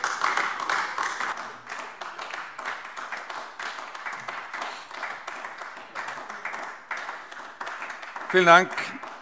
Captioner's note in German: Beifall AfD